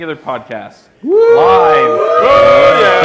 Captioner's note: cheering